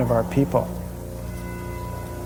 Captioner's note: bell tolls